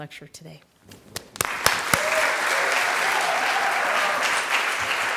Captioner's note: applause